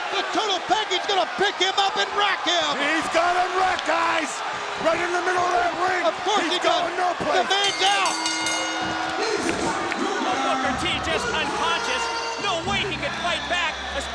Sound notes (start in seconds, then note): 7.6 bell rings